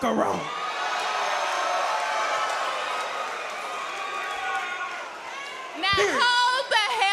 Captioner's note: crowd cheers